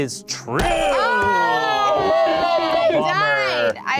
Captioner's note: cheering and groaning